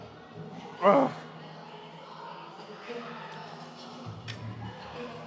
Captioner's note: grunts